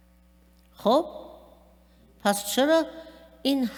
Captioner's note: speaking persian